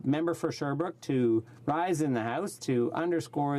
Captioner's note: speaking French